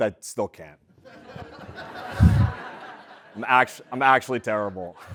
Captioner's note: laugh